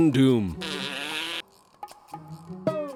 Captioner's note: blows raspberry